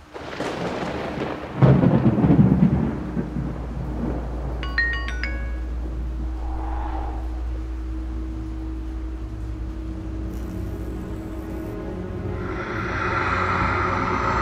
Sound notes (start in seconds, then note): 0.0 thunder; 4.6 alert; 6.1 gust of wind; 10.0 ominous music; 10.2 electrical flicker; 12.3 evil whisper